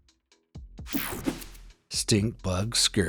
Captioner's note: air whooshing